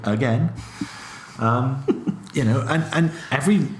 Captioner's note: laughs